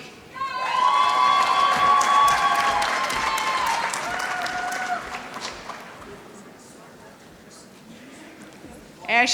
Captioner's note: applause